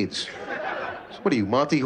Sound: laughter

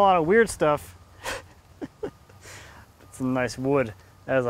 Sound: laughs

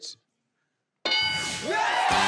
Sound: bell ring sound; crowd applause

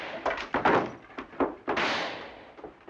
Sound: crash and thump; gunshot

